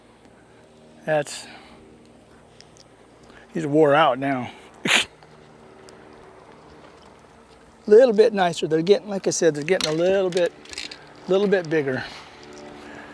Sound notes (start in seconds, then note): 4.4 laughter